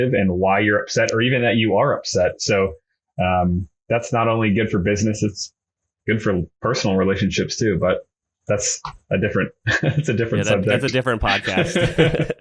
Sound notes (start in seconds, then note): 10.3 laughs